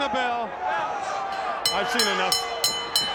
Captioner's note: bell ringing